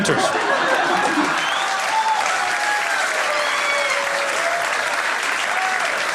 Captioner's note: cheering